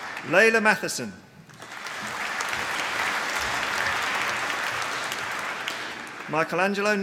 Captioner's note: applause